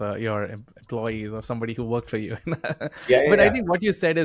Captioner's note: laughing